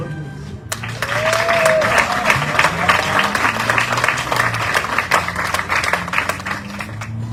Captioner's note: audience cheering, applauding